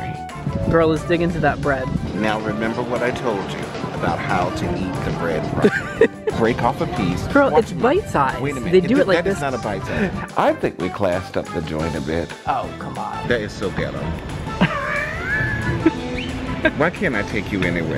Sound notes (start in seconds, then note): 14.2 wheezes